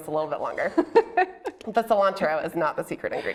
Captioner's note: laughing